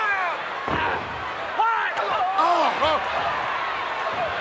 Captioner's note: crowd chattering